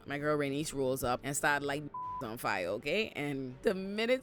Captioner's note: beep